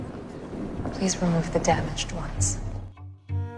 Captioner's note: voiceover